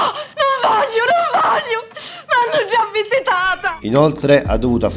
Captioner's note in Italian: urlo